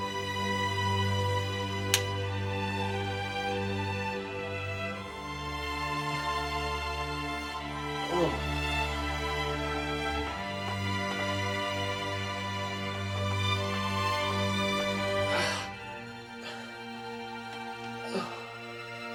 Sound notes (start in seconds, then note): 8.0 doctor groans and stretches